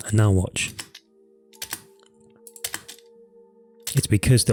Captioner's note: taps on keyboard